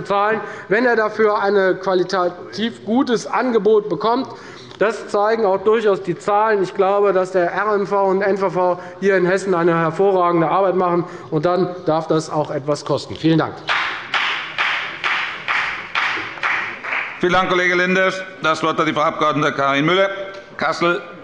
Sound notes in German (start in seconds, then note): 13.7 Beifall bei der FDP